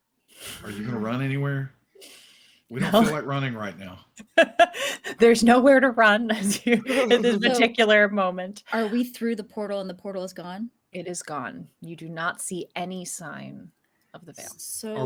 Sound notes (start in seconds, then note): 6.4 laughs